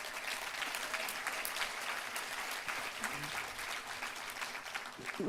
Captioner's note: applause